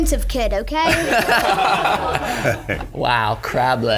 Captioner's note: laughing